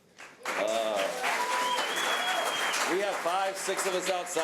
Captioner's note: audience applause